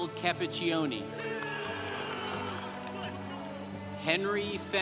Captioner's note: congregation applauding